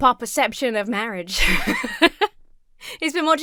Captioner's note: laughs